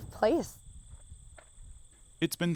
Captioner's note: birds rattling